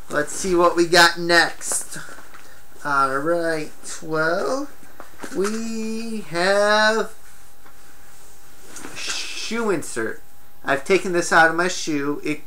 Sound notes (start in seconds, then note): 4.7 items rattle around in bag